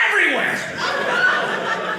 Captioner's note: audience laughing